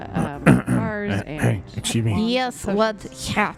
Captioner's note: clears throat